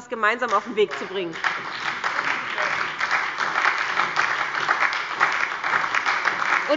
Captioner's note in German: Beifall bei der SPD und der LINKEN